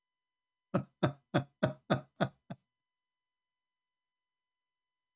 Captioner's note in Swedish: Skratt